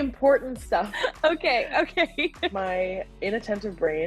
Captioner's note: laughing